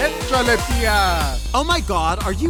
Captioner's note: speaker speaks in foreign language